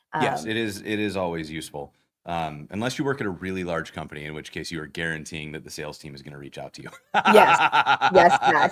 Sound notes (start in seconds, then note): 6.9 laughter